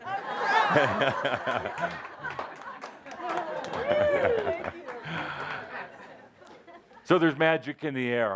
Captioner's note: laughter as he gives the hat back